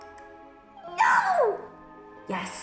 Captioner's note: the pumpkin shouts